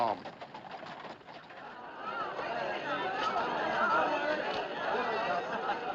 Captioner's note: Conversando, rindo